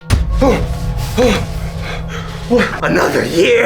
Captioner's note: heavy breathing